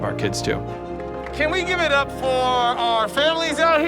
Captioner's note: crowd applauding